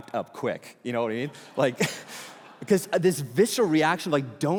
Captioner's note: congregation laughing